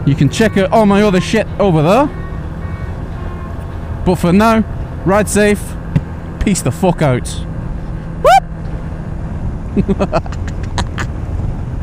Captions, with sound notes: You can check out all my other shit over there. But for now, ride safe. Peace the fuck out. Whoop! [LAUGHING]